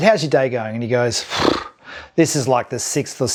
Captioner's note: sighs